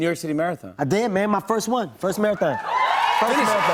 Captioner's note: cheers and applause